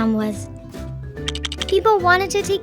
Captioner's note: happy music; lego blocks clacking